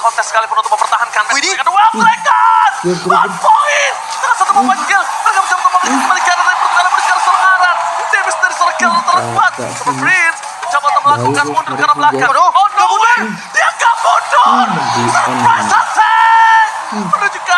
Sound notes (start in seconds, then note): 5.6 laughs; 6.1 applause; 15.1 applause